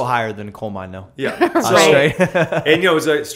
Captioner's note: laughter